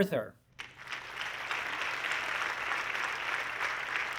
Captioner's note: audience clapping